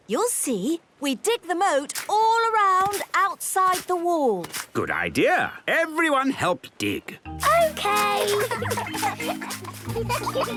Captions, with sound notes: - You'll see! We dig the moat all around outside the wall. - Good idea. Everyone help dig. - Okay! - (giggling)